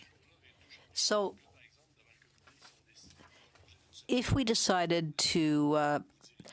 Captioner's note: speaking French